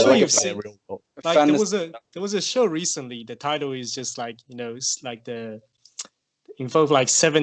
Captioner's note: tsks